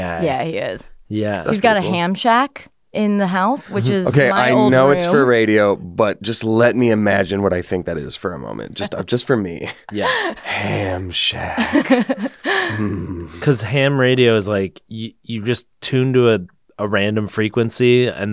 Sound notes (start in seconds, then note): 9.5 laughs